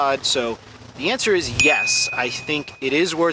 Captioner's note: beep